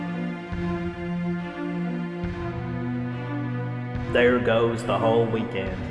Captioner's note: none